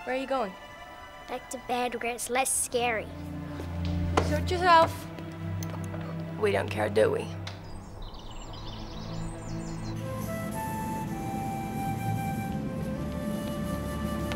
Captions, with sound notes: Where are you going? - Back to bed where it's less scary. (little footsteps exiting) - Suit yourself. We don't care, do we? (birds chirping) (wind blowing) (slow flute music)